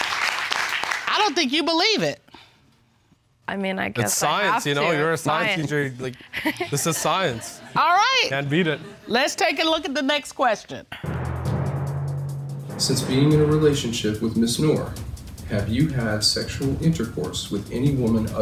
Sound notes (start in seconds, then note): 6.1 chuckles